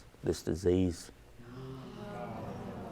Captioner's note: audience murmuring